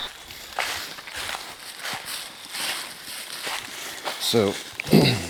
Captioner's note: walking, rustling